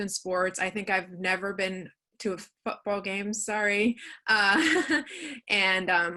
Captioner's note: chuckles